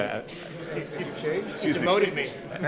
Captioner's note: overlapping chatter